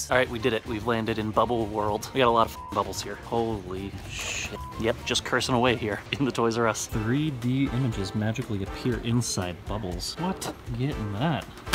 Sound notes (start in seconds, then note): none